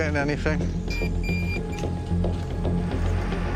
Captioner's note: detector beeping